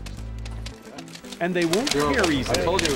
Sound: money snapping taut

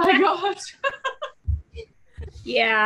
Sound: laughs

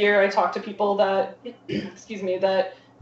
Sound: cleared throat

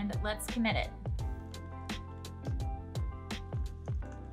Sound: typing sounds

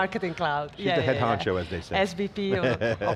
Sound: laughs

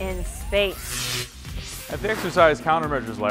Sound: sound Effects

